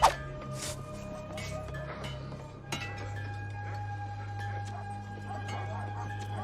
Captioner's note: metal clanging